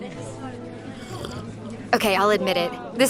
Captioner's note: slurps coffee